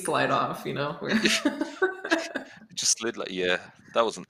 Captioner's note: laughter